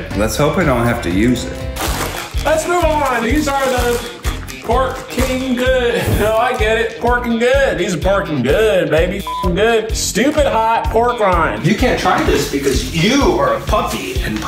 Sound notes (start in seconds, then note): 1.5 package rustling; 9.2 beep